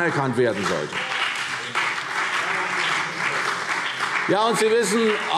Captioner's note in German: Beifall CDU und BÜNDNIS 90/DIE GRÜNEN